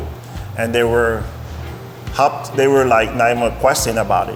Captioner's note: murmurs